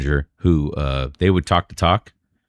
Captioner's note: uh